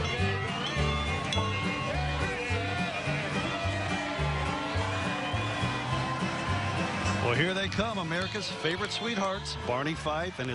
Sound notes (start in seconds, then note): 5.3 train bells; 7.5 country christmas music